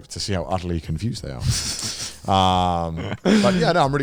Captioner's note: chuckles